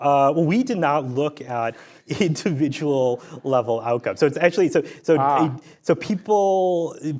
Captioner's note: laughs